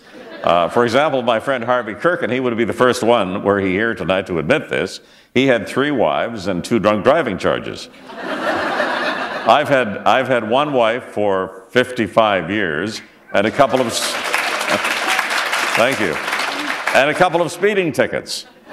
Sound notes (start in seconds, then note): 0.0 laughter; 8.0 laughter; 13.5 applause